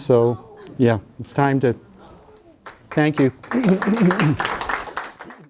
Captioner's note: students clapping